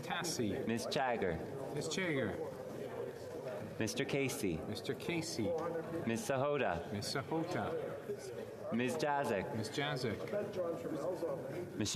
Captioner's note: calling of recorded vote